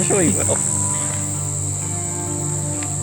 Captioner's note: insects buzzing